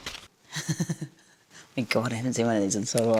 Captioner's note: laughs